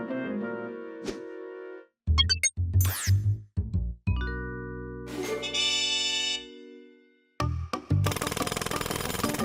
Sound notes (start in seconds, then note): 2.2 beeping; 5.2 upbeat note; 8.0 jackhammer pounding